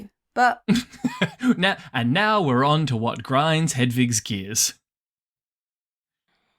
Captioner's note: laughs